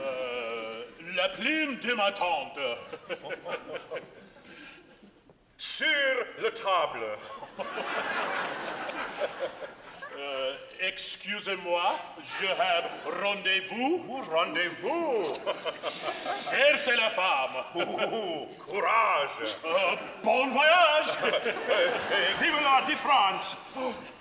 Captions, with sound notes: - Uh, la plume de ma tante (laughing). - Sur la table. (audience laughing) - Excuse-moi je have rendezvous. - Oh, rendezvous (laughing). - Cherchez la femme. - Oh ho ho, courage. - Uh, bon voyage. - Viva le de France.